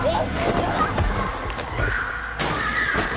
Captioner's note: screams